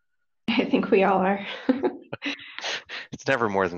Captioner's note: laughs